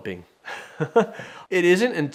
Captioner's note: chuckles